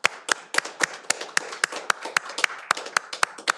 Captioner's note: all applauding